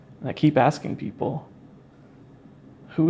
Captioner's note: none